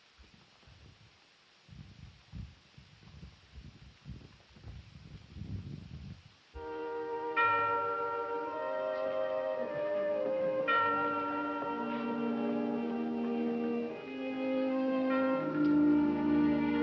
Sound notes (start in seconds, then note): 7.4 church bells ringing